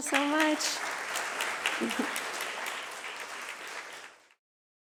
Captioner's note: applause